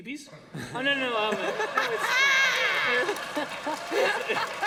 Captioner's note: laughter